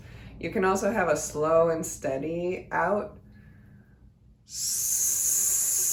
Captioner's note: hisses